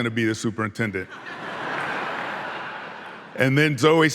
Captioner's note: audience laughing